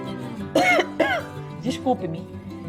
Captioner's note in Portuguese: Tosse